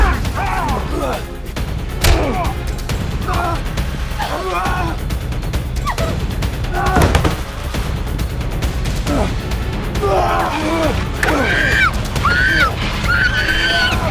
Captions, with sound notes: [JOHNNY GRUNTS] [ANTHONY GRUNTS] [ELIZABETH SCREAMS] [ANTHONY GRUNTS] [ANTHONY GRUNTS] Help! Johnny!